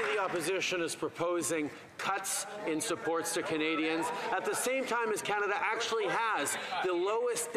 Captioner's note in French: voix de l'interprète